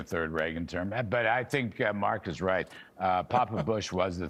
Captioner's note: laughter